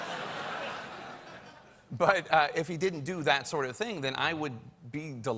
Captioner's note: laughter